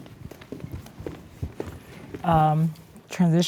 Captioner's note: footsteps echoing